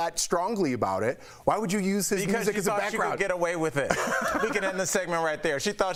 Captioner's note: laughter